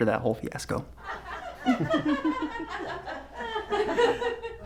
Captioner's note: laughter